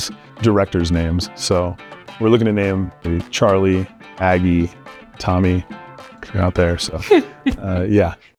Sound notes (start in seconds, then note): 7.0 laughs